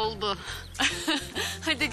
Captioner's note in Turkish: Gülüşme